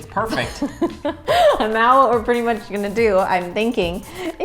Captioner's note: laughs